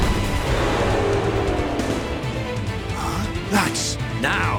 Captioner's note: gasp